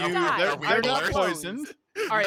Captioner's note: murmurs